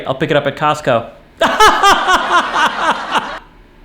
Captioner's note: laughs with laugh track